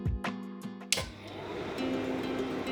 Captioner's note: projector clicks